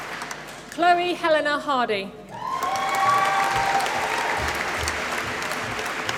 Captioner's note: applause